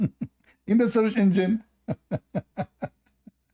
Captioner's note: Ketawa